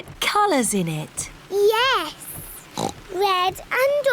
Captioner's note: oinks